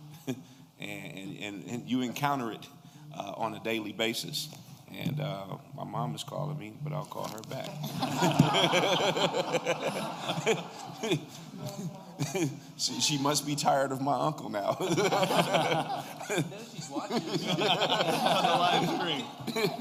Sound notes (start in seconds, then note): 7.8 laughter; 14.7 laughter